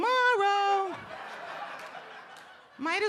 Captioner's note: audience laughing